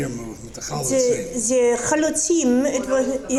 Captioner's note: speaking foreign language